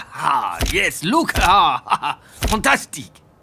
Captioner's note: laughs